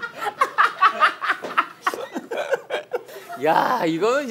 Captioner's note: laughing